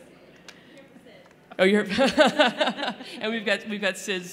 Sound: laughter

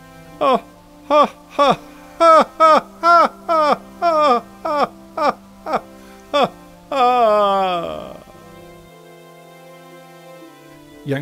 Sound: king Laughs

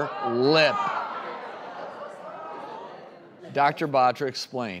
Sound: audience murmuring

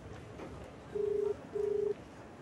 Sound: mobile Phone ringing

